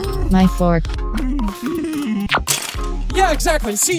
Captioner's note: giggle